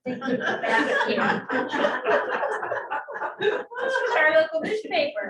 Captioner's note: laughter